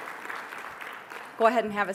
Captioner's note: applause